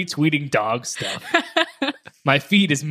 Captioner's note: laughing